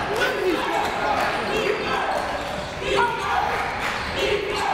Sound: coaches yelling; crowd talking; crowd

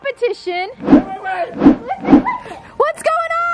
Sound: shouts

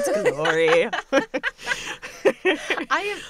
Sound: laughter

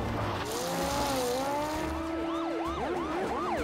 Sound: police siren wailing

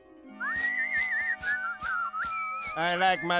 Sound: whistling

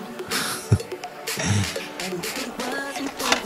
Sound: laughs

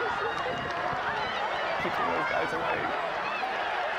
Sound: yelling

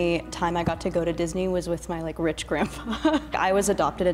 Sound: laughing

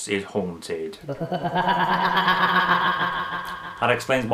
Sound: ghostly laughter

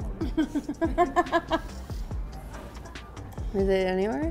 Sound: laughs

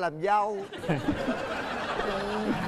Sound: laughing

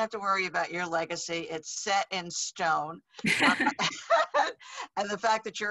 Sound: both laughing

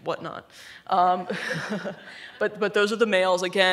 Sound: laughing

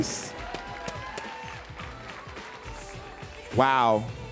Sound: audience cheering

